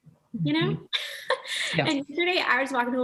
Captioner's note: laughs